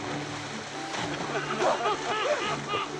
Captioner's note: laughing